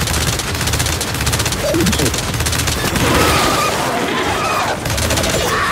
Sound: gunfire; sirens wailing

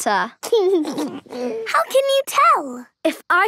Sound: snorting; giggling

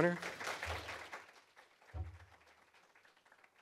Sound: applause

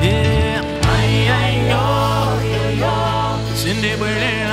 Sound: chant

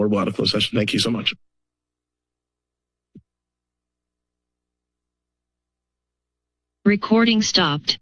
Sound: silence

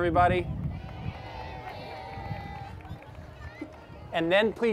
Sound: applause

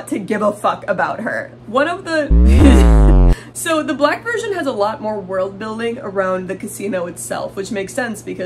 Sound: brain breaking sound

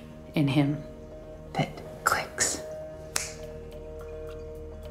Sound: snaps fingers

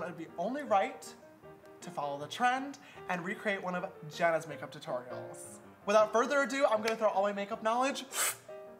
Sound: succ noise

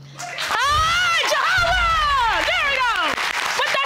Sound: audience clapping

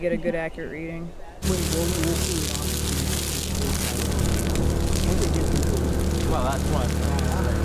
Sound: loud fire engine in background

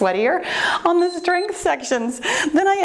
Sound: timer beeps

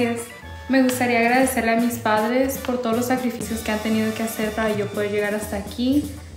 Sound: speaks in foreign language

